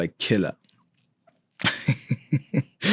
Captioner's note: laughing